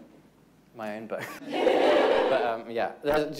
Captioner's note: audience laughing